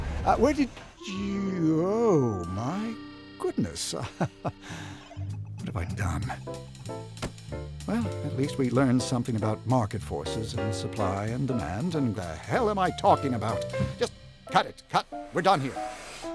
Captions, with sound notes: Where did you-- Oh... my goodness. [chuckles] What have I done? Well, at least we learned something about market forces, and supply and demand, and-- The hell am I talking about? Just cut it. Cut. We're done here.